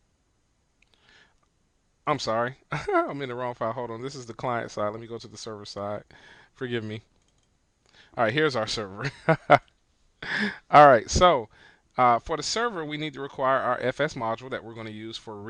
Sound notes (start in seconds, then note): 10.2 laughing